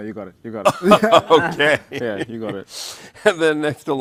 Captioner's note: laughing